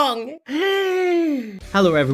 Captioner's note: inhales